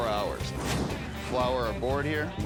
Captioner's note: logo whooshes